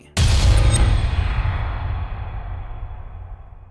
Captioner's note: text thuds